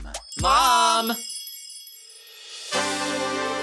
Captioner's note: tinkling tone; bright dramatic music